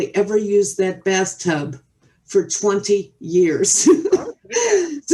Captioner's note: chuckles